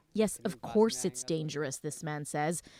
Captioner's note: speaking Foreign Language